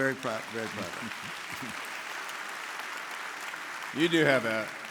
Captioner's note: audience applauding